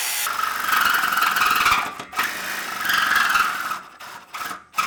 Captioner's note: blade screeching